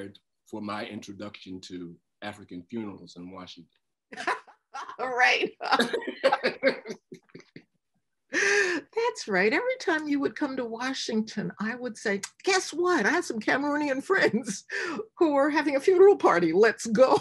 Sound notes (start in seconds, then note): 4.1 laughter